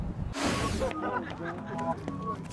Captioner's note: air rushes; students laughing